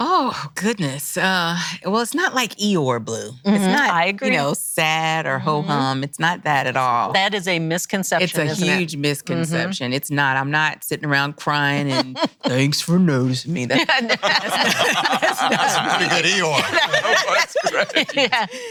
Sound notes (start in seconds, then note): 13.8 laughing